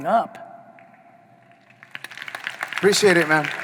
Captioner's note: audience applauding